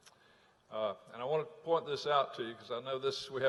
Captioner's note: none